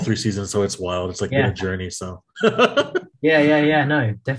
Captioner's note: laughs